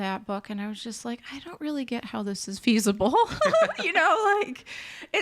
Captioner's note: laughs